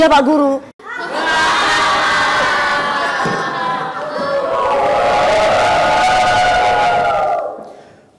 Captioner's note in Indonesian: tertawa mengejek